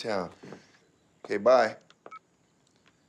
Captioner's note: cell phone beeps